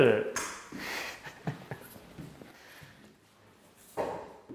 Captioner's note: laughing